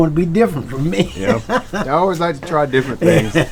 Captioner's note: man laughs